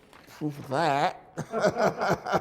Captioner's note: laughter